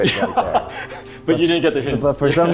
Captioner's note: laughing